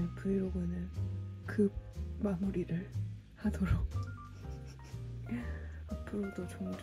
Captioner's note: haha